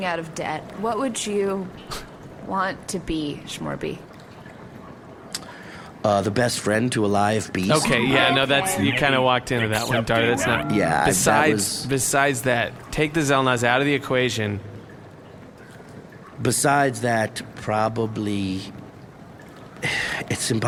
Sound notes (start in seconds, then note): 1.9 Pleck snorts; 4.9 sardonic; 19.8 sighs